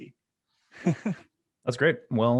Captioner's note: laughing